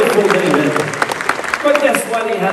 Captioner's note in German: Menge jubelt